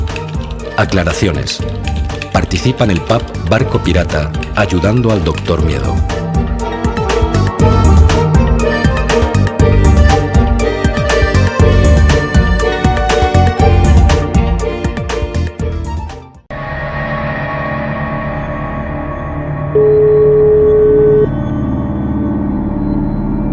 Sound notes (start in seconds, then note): 16.5 tense ambient sound; 19.8 phone dial tone ringing